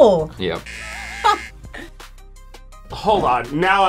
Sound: buzzer rings

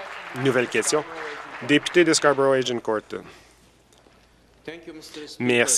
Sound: applause

